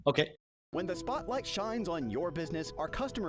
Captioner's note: voiceover